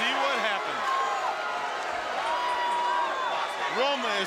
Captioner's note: crowd chatter